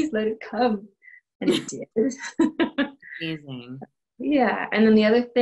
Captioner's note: laughter